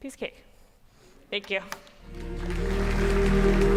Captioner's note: applause